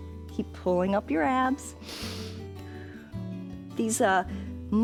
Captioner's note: inhales and exhales